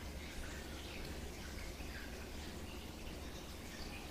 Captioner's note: water dripping